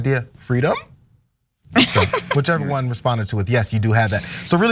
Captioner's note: laugh